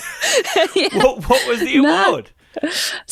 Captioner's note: laughs